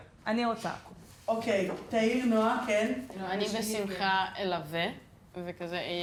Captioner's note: speaking foreign language